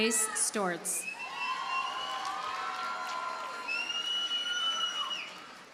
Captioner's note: audience cheers and applauds